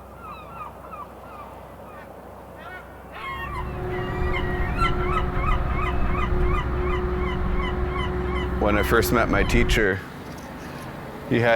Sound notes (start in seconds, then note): 0.1 gulls squawking; 3.2 boat humming